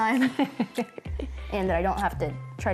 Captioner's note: laughing